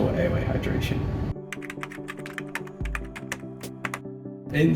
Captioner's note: typing sound